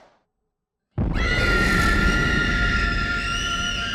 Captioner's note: screaming